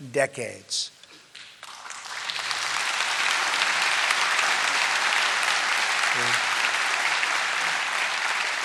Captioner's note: applause